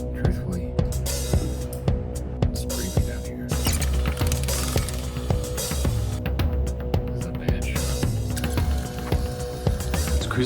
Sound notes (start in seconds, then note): 3.6 videotape squealing; 4.2 tense music; 8.9 tense music; 8.9 videotape squealing